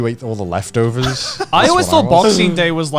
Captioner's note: chuckling